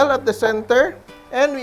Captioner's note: sizzle